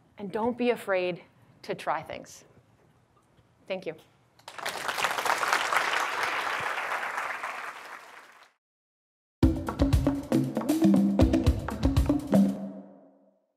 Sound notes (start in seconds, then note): 4.4 audience claps; 9.4 upbeat drums